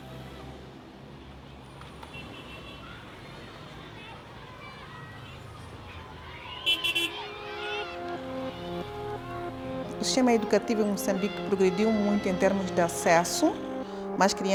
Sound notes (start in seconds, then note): 1.2 road noise